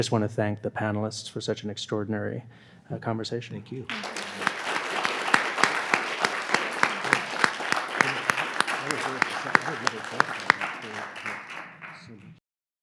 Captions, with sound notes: But just wanna thank the panelists for such an extraordinary conversation. Thank you. (audience applauds) (people chatter)